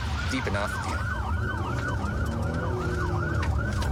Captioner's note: engine guns